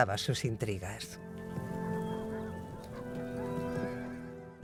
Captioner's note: hooves clomping